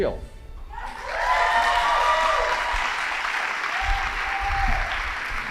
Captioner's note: audience applauding